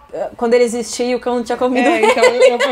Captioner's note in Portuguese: risos